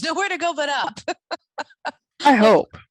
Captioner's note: laughing